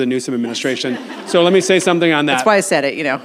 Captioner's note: audience laughs